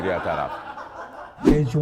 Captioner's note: laughter